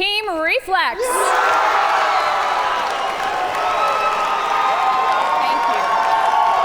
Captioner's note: audience cheer and applaud